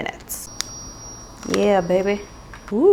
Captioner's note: smoking gun buzzes